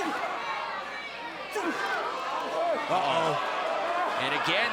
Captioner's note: crowd chatter